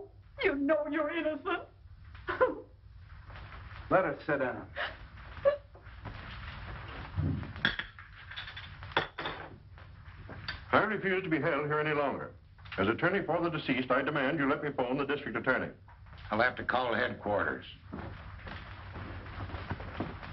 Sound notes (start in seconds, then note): 5.4 sobs